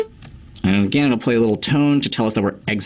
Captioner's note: beep